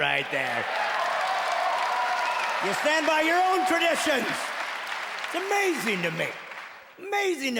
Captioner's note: clapping and cheering